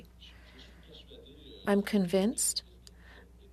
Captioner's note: speaking French